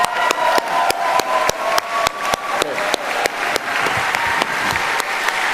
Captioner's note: applauding; cheering